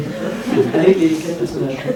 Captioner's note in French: rires